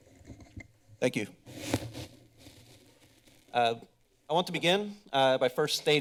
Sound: mic rustles

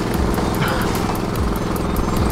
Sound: chuckles

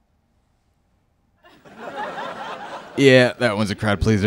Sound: laughter

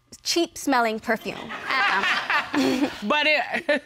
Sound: all laugh; laughs

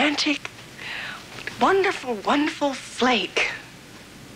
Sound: none

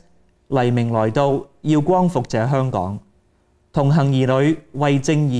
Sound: speaking in Cantonese

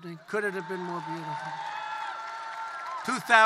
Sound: applause

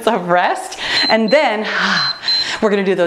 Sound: timer beeps

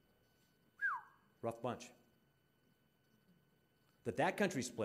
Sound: whistling

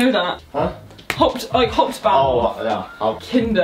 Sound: speaking in foreign language

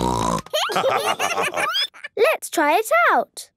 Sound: snorting; laughter

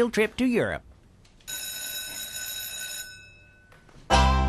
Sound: bell rings

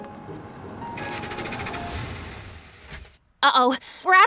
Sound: car engine roaring

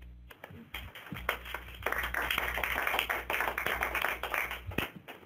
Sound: participants applauding

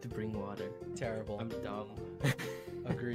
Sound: laughs

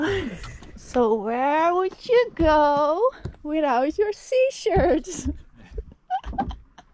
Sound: chuckling

